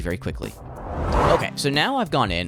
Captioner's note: swooshing Sound Effect